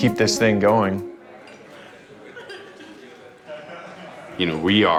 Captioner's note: indistinct chattering